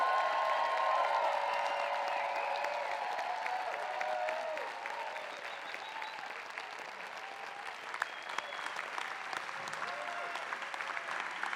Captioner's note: applause